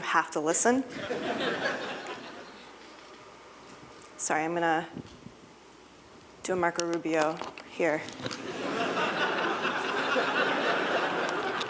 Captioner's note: laughter